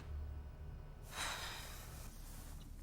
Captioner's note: Alice sighs